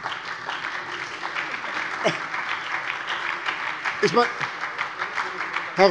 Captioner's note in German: Beifall bei der SPD